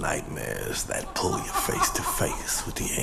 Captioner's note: laughing